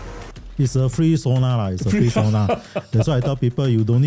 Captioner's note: laughter